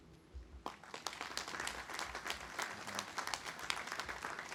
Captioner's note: audience applauding